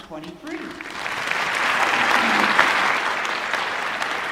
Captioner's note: applause